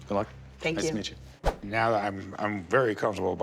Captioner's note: none